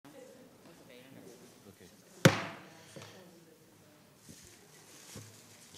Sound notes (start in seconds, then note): 0.2 audience chattering; 2.2 gavel banging